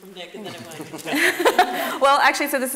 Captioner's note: laughing